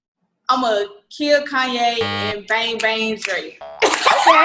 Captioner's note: buzzer; boing; laughs